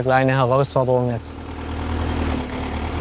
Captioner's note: engine sounds